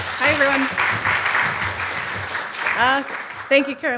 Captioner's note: applause